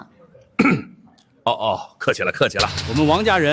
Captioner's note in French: Tousse